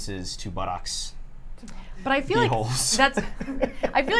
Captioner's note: laughter